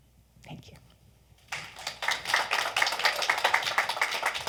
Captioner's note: audience clapping